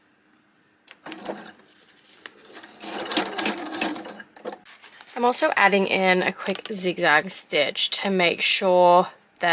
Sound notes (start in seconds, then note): 2.4 sewing machine making noises